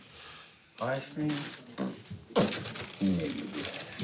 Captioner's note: blows raspberry